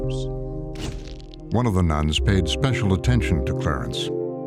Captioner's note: shutter clicks